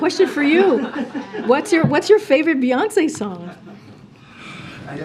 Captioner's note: laughter